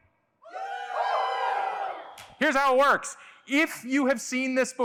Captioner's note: cheers